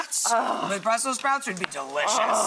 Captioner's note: groans with pleasure